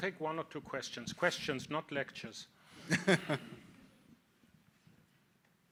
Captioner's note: laughs